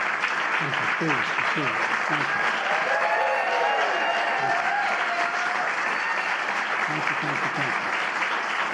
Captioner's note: applause